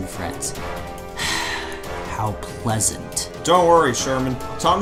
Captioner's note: sighs